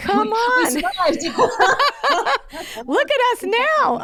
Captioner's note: both laughing